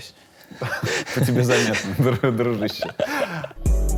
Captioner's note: both laugh; title theme